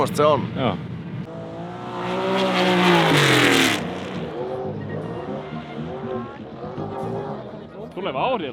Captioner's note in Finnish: moottorien pärinää